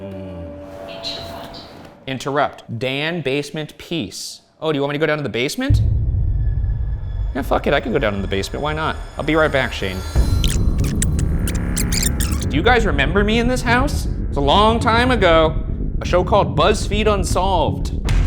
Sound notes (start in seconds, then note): 5.8 eerie music; 10.3 videotape squealing